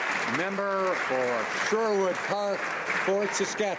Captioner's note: some Applause